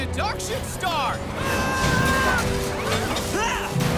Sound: shouts

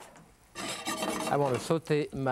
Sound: pan scraping

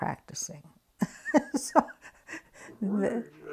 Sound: laughs

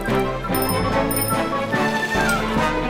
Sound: bicycle bell rings

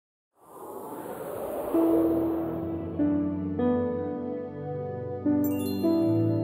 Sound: logo whooshing; soft music

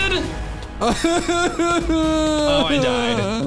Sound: makes crying sounds

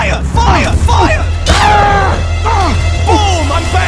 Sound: The IS-2 groans

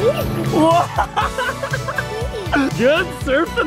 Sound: laughing

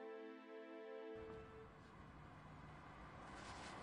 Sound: traffic

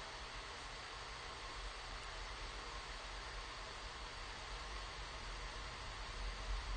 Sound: static noise

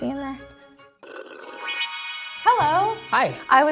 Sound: slurps; sparkly music

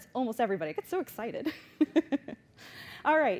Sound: laughs

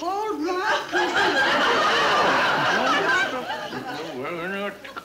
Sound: audience laughing

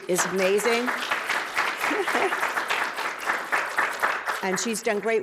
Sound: audience clapping; chuckling

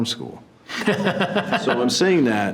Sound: board members laugh

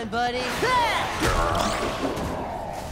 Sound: grunting

